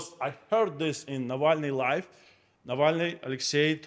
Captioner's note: none